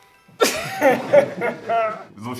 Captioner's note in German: Lachen